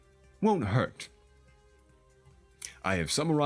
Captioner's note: dramatic Pause